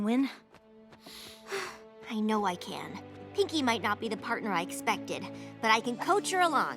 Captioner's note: sigh